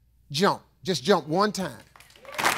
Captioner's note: audience applauding